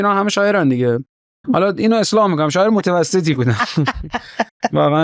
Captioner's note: laughs